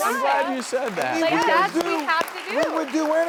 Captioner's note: audience applause